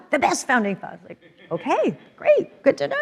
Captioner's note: audience laughs